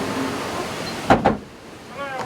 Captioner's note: door clangs shut